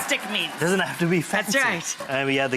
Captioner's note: audience laughs